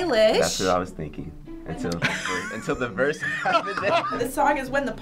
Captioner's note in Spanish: riendo